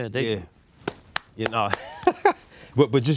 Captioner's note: claps; laughs